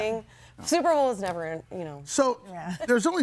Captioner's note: laughs